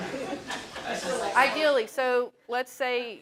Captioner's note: laugh